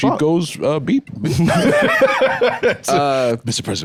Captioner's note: laughs